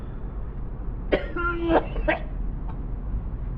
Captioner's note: teddy coughs hard